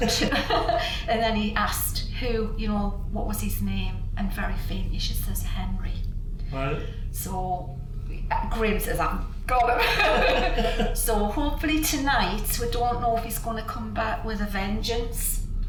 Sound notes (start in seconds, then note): 0.0 both chuckle; 9.7 both laugh